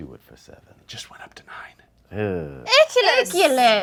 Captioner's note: whispers; Ikyulus groans uncomfortably